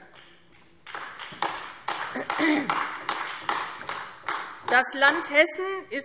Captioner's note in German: Beifall AfD